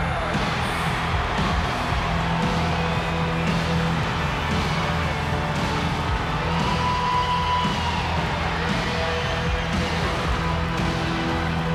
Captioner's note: applause